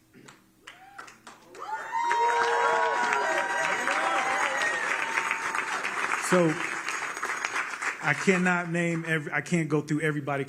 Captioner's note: applause